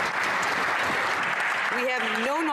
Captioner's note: some Applause